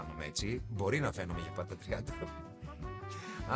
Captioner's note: laughs